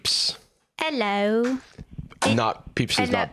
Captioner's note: britishly